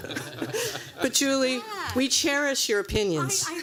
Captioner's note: laughter